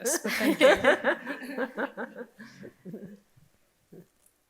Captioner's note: group laughing